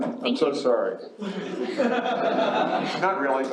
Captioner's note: laughs